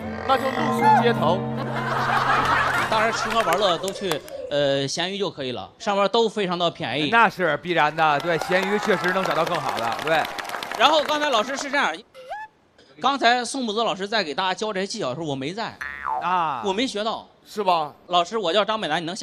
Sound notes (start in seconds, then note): 2.3 hahahaha